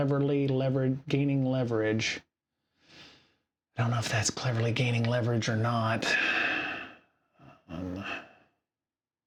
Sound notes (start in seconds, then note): 7.7 sighs